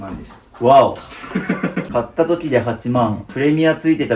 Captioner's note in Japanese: 笑い